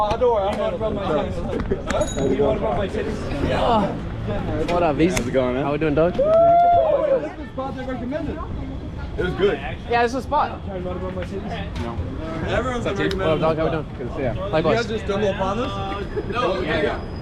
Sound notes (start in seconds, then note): 6.1 cheering; 15.2 speaking foreign language